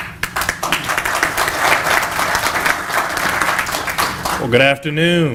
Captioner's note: applause